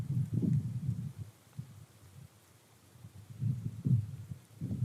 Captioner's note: Stille